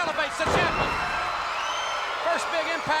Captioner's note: audience cheering